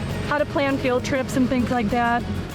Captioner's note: truck revving distantly